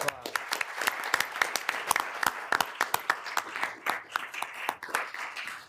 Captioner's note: room applauding